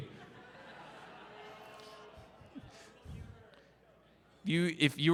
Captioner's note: crowd Laughter and groans